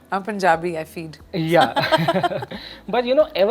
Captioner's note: laughs